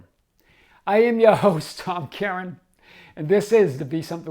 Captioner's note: chuckling